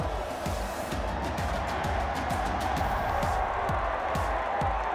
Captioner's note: crowd cheers